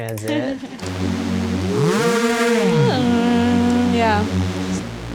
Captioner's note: buzzy sounds changing pitch